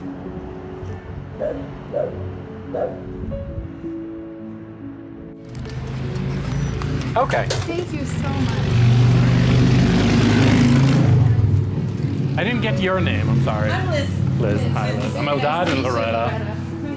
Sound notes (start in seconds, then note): 1.9 barks; 7.9 motorcycle zooms